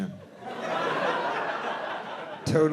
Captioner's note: audience laughing